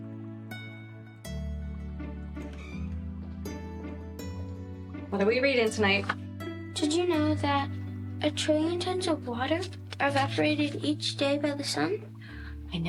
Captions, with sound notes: (door creaking) (gentle music) - What are we reading tonight? - Did you know that a trillion tons of water are evaporated each day by the sun?